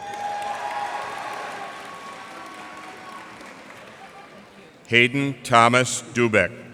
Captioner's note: cheers and applause